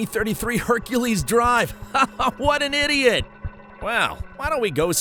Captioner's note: laughs